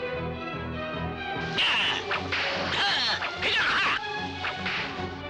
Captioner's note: dwarf barking commands